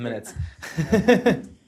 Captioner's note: laughter